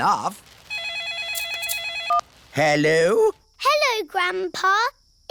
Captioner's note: phone rings